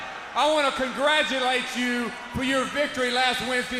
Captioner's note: crowd cheering